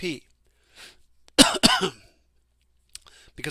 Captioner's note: coughs